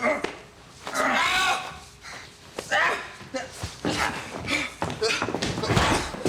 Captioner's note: Bob grunts; Danny screams